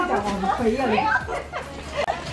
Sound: laugh

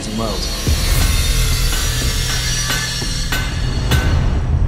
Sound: metal clanging

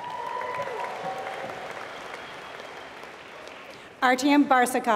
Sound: applause

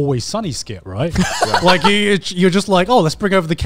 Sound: laughs

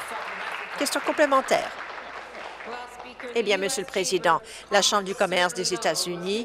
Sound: applause

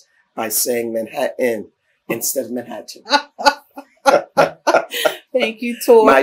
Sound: laughter

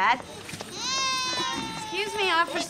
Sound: baby crying

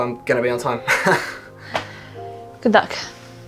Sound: laughs nervously

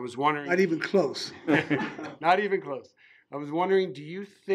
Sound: laughing

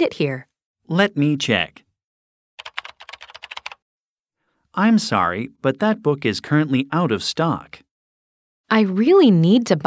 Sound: typing sound

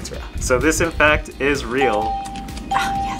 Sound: bell rings

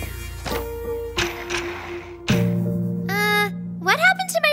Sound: roller skates skidding

